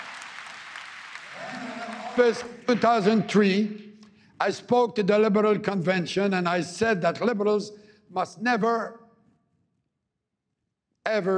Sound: applause

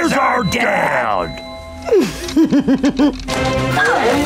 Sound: chuckling

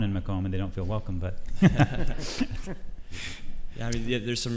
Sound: laughs

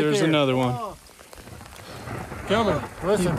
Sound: thunder

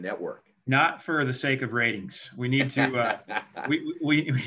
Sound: laughs

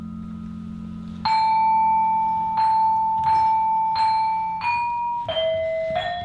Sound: high pitched metal sound

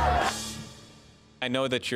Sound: cheering

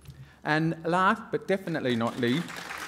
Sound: applause

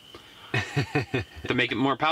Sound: laughing

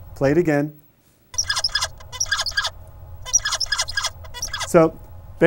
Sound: tweeting

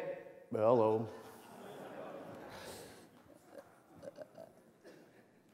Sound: laughter

